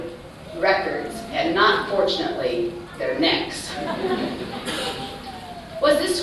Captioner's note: laughter